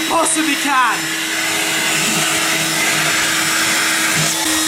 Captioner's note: vacuum running